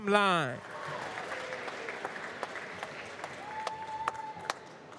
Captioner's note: applause